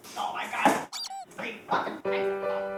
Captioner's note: mumbling in anger